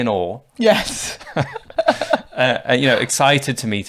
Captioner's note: laughing